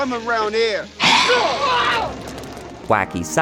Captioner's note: vicious noise